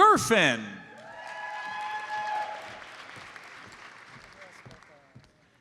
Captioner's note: audience cheers and applauds